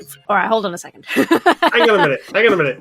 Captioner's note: laughs